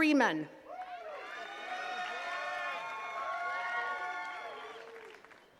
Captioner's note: attendees cheering and clapping